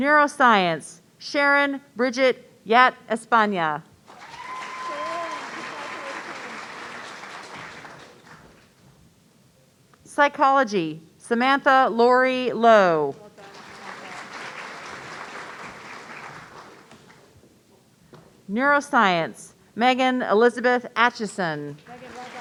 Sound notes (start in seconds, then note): 4.1 audience cheering; 13.4 audience applauding